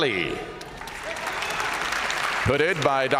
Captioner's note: audience cheering